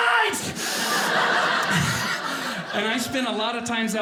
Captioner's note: audience laughing